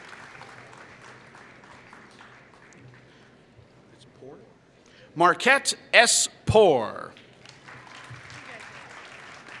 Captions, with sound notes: Markette S. Poor [Applause]